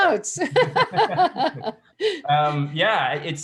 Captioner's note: laughing